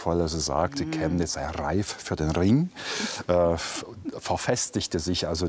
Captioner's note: Bavarian accent